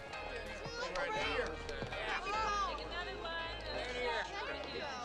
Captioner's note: patrons chattering